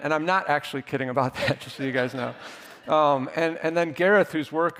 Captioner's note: audience laughing